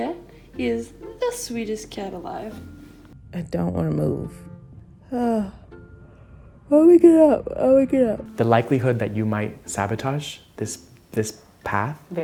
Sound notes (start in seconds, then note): 5.3 yawns